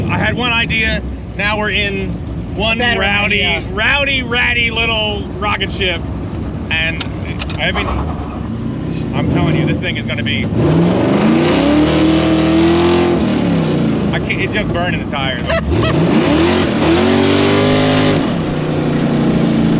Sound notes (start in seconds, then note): 11.8 engine roaring; 15.5 friend laughing